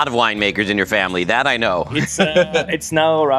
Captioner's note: laughs